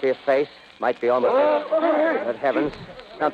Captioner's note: shout of awe from the crowd